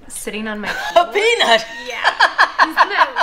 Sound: laughter

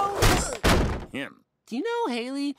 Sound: thud; crash

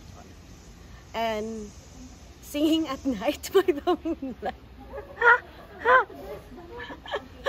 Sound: uncontrollable giggling

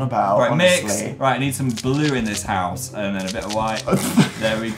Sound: laughs

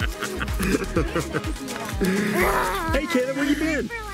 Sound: people laughing

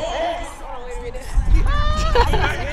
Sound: laughing

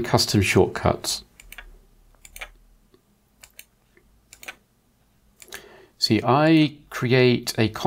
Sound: blank Audio

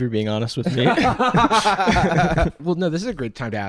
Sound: laughs

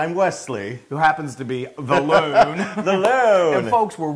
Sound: laugh

